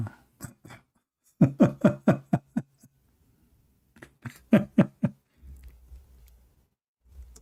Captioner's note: Ketawa